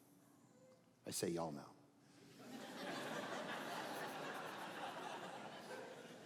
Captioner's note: audience laughing